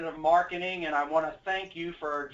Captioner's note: automated voice